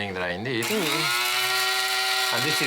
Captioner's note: grinding